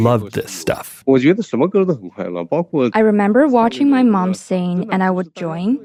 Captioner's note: speaking Mandarin Chinese